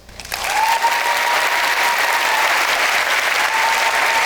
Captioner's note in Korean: 박수와 환호